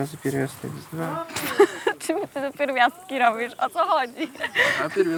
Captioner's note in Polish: śmiech